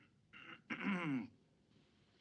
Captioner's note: brighton clears throat